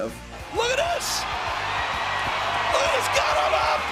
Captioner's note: crowd clamoring